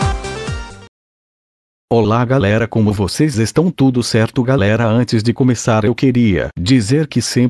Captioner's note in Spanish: en español